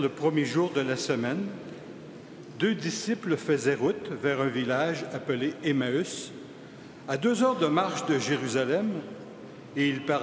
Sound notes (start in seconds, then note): 2.1 crowd noise